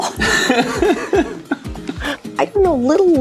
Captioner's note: laughs